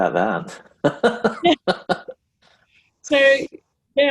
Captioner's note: laughs